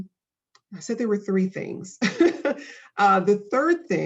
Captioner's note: laughing